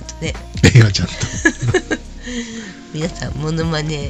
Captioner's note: laughs